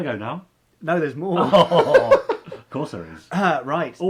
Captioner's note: laughing